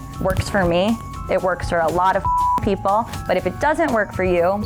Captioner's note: beep